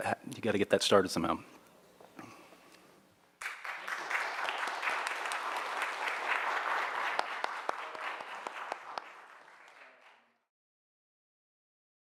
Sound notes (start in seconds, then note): 3.4 audience applauds